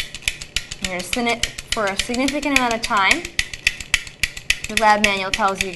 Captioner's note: spinning sounds